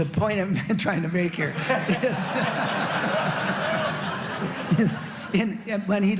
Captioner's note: laughter